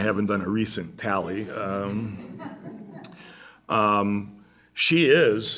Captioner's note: laughter